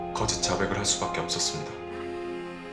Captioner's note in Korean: 휴대전화 진동음